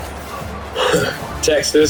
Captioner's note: crowd Noises